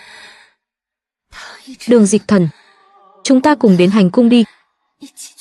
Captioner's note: thở dài